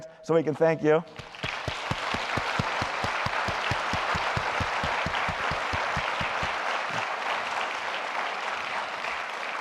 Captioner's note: applause